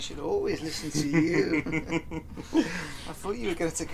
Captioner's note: laughing